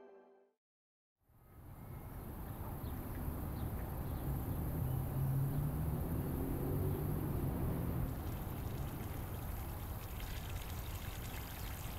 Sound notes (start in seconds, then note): 2.3 wind whishing gently; 6.4 vehicle revving distantly; 7.9 water trickling